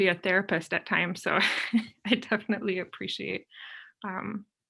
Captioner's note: chuckles